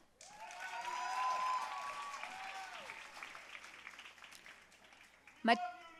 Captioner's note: audience cheering and applauding